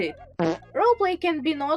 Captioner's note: fart sfx